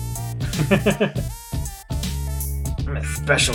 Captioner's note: laughs